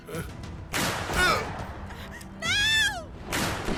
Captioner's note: gunshot banging